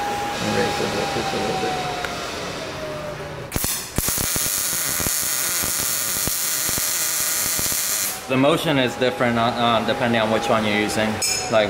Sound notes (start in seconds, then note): 1.7 machine whining; 3.5 welder crackling